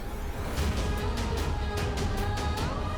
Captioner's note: emotive vocalisation